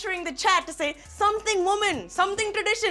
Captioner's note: in Indian accent